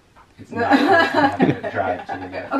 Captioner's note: laughs